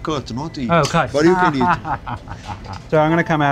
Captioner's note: laughing